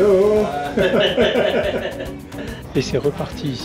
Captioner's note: laughs